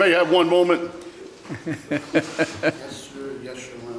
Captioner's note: Judge Caprio laughs